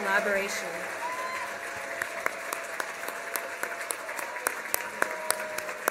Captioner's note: applause